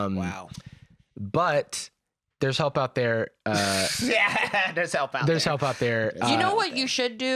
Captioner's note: laughs